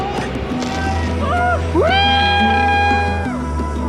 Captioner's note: screaming